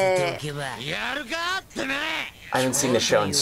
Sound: speaks Japanese

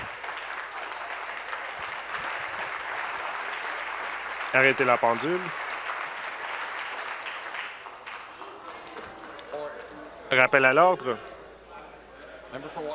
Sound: applause

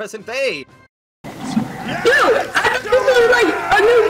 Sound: flustered yelps

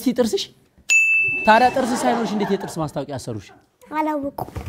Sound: laughter

